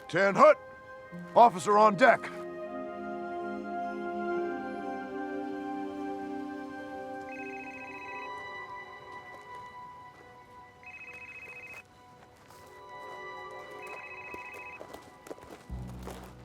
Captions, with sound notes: 10-hut. Officer on deck. (gentle music continues) (phone ringing) (suspenseful music)